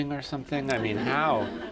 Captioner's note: laughter